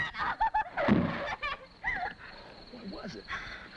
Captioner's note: thump